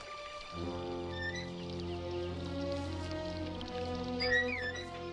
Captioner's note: trap squeaking